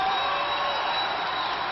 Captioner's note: applause